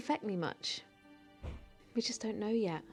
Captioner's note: door closes